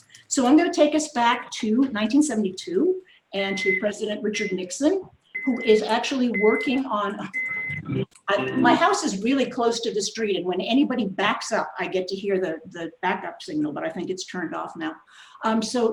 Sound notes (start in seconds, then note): 7.2 beeping